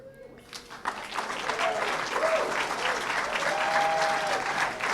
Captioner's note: applause